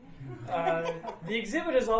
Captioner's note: laughing